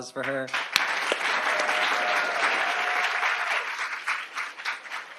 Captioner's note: audience applauding